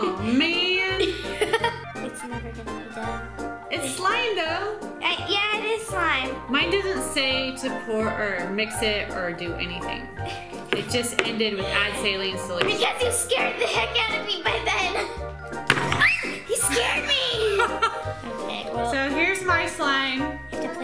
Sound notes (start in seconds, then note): 0.0 giggles; 15.4 loud bang; 16.0 screams; 16.4 laughs